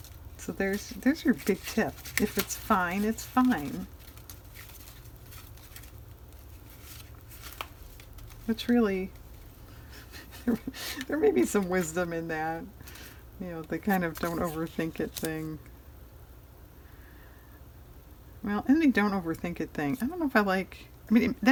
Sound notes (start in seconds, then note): 9.9 laughs